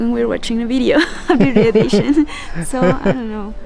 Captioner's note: laughs